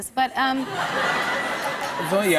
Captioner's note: laughter